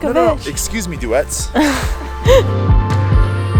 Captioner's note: laughing amusingly; gentle light music continues